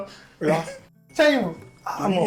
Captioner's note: laughs